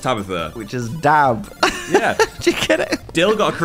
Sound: laughs

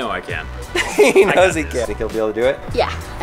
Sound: laughs

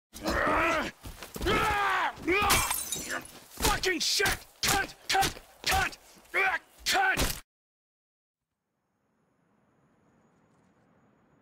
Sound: grunt

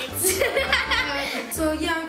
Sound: laughing

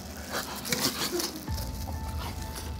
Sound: voraciously eating

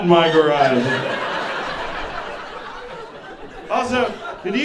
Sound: audience laughing

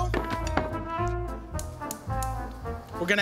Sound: clicking burner

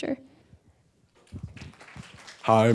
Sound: attendees clapping

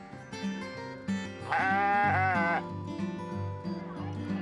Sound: bleating

